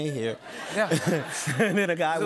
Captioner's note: laughter